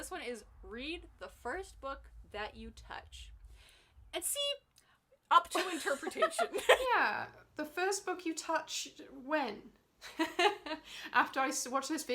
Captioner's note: laughs